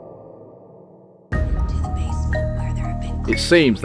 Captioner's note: sound FX